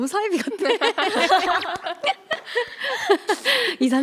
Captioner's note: haha